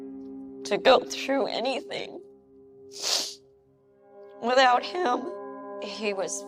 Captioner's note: sniffling